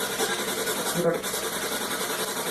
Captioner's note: strange voice from SB-7